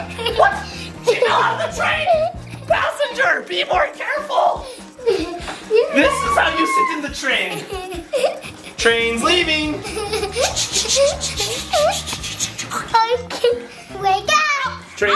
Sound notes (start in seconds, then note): 0.0 laughing; 5.8 screaming; 7.2 laughing; 10.6 making choo choo sounds; 12.8 laughing